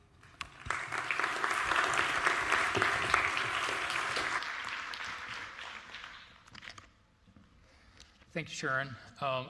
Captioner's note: applause